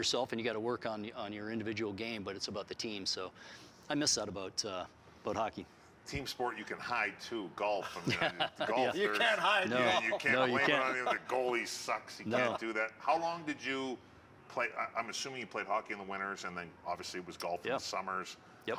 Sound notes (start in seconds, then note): 7.8 laughter